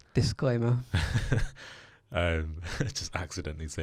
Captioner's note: laughs